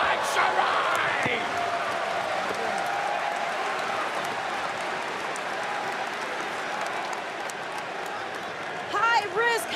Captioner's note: crowd cheering